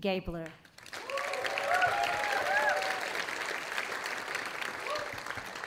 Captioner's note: audience applauding